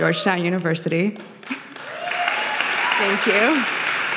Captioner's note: audience applauding